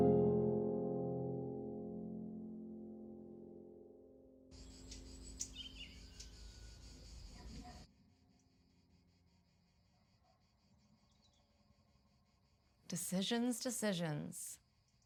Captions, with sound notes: (birds singing) - Decisions, decisions.